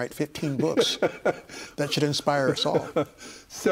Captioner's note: laughing